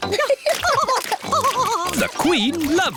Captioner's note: both laughing